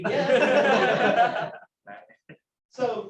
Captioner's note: laughter